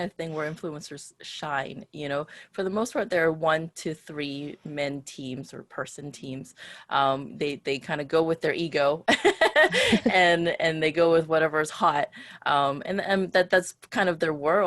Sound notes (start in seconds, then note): 9.3 laughs